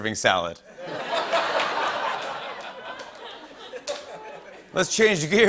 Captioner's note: laughter